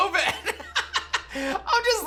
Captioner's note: laughs